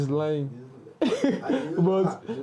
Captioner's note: laughs